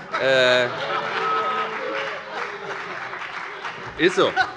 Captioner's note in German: Lachen des Ministers Tarek Al-Wazir - Demonstrativer Beifall bei der SPD